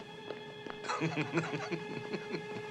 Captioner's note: laughing